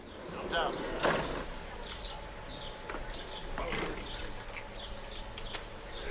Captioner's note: speaking in Sherpa language